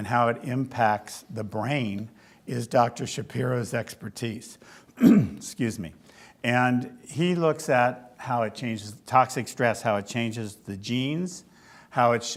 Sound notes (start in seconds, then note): 4.9 clears throat